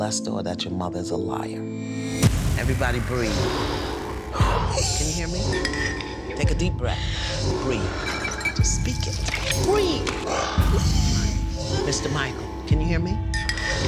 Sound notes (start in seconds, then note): 3.4 deep breaths; 5.5 clink clink; 8.0 clink clink; 9.9 gasps, crying; 13.3 clink clink